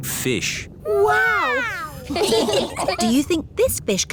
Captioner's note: laughing